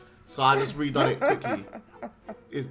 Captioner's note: laughing